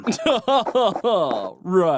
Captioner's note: laughter